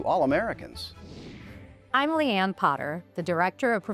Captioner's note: graphic whooshes